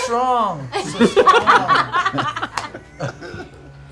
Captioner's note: laughter